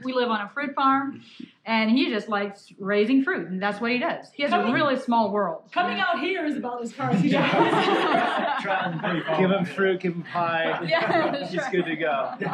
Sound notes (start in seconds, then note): 7.0 laughter